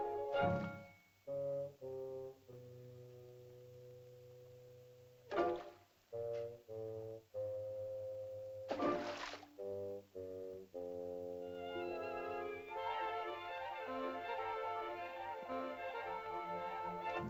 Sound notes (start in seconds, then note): 0.0 whimsical music; 5.3 splashing sound; 6.1 whimsical music; 8.7 water splashing; 9.5 whimsical music